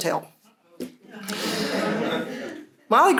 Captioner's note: laughter